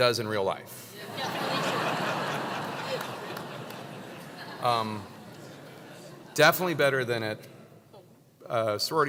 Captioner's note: laugh